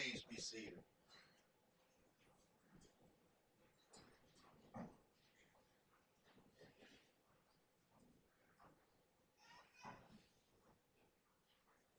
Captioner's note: silence